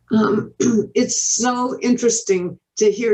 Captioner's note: clears throat